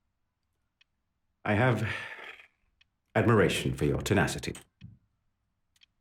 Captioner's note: sighs